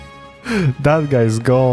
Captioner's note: exhale